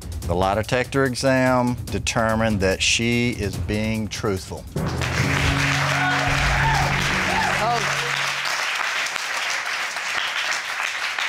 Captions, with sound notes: The lie detector exam determined that she is being truthful. [CROWD APPLAUDING]